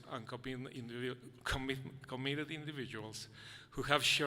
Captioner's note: none